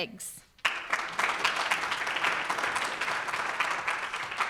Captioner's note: audience applauds